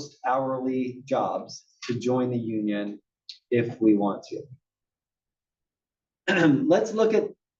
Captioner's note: cough